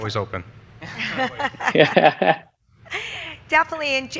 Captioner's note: all laughing